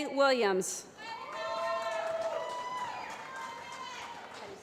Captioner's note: applause